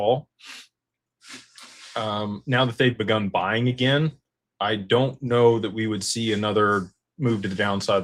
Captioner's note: snorts